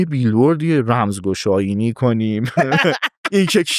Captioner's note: laughs